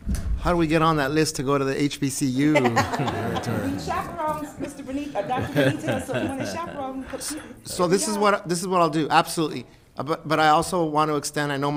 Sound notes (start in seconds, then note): 2.4 all laughing